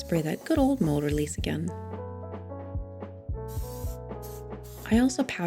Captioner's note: mold release spray can hisses